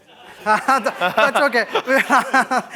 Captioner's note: laughter